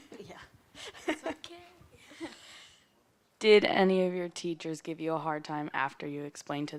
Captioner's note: laughter